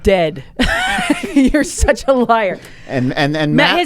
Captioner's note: both laughing